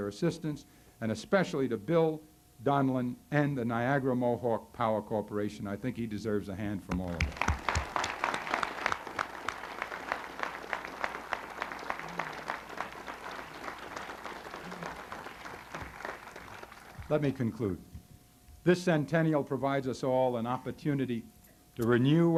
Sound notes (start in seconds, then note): 6.9 applause